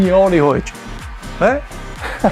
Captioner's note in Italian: Applauso